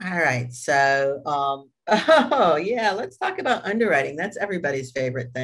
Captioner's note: chuckles